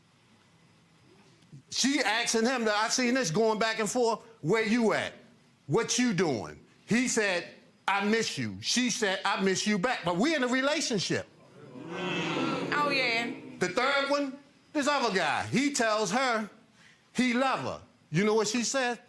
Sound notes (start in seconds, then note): 11.5 audience groans